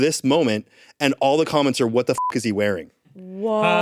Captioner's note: beep